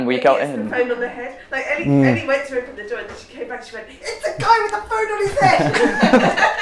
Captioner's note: laughing